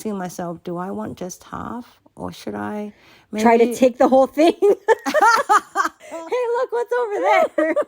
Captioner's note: laughter